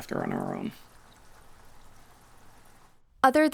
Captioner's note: rain pattering